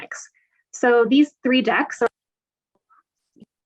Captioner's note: audio muffling